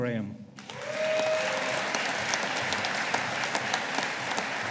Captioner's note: audience applauding